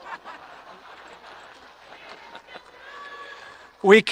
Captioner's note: audience laughing